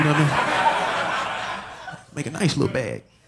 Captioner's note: audience laughing